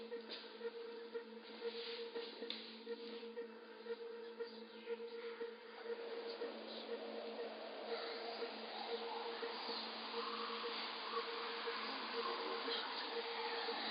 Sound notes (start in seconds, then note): 9.1 voices chanting